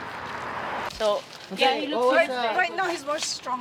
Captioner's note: women chattering